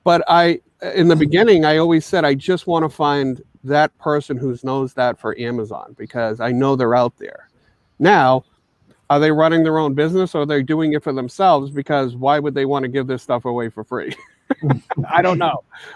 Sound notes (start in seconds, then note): 14.0 chuckles